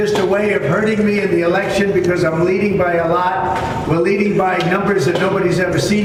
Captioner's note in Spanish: hablan enen inglés